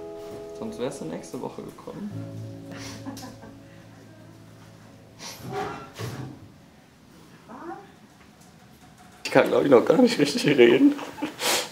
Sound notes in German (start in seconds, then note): 5.2 Schluchzen